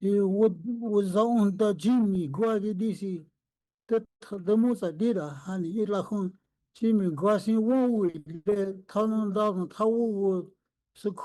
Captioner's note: speaking Indigenous language